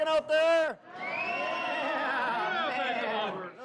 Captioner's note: crowd cheers